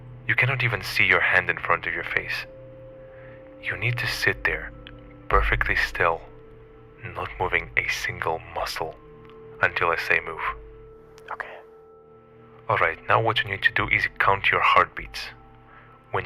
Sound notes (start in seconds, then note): 11.1 whispering